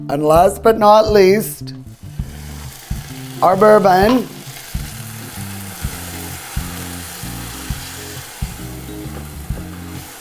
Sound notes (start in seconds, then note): 4.4 sizzling; 6.7 deep rhythmic music